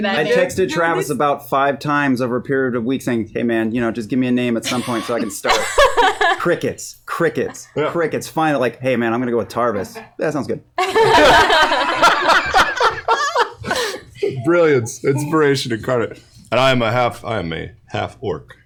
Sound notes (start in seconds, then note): 10.8 laughter